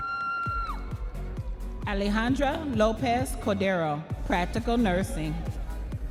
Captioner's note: audience members cheering